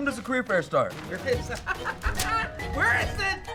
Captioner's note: maniacal laughter